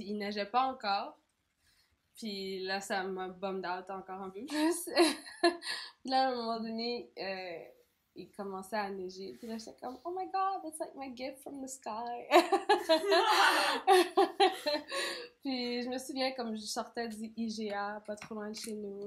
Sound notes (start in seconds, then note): 12.4 laugh